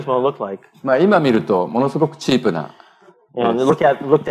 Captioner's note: speaking japanese